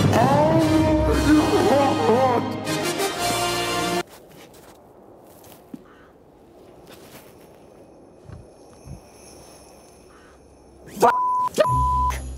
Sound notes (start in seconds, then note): 5.6 distant crow cawing